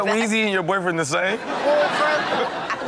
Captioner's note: audience laughs